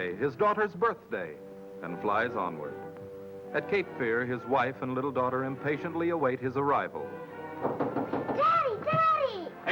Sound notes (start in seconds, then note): 7.5 knock on door